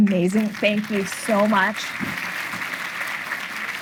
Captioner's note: audience applauding